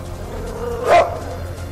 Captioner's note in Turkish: köpek havlama sesi̇